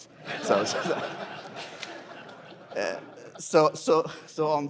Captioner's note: laughter